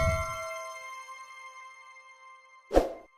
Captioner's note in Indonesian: lonceng